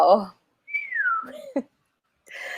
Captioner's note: whistles low